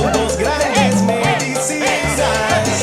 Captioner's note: Todos gritan: ¡Eh, eh, eh!